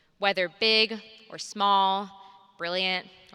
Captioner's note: none